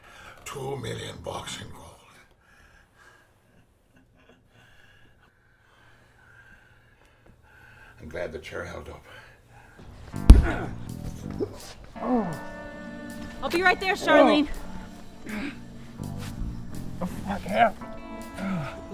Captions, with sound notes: FEEL LIKE $2 MILLION BUCKS IN GOLD. I'M GLAD THE CHAIR HELD UP. [ MOANING ] I'LL BE RIGHT THERE, CHARLENE. WHAT THE FUCK HAPPENED?